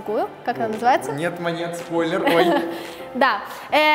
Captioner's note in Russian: хихикает